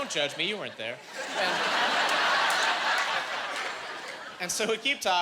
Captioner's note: laughing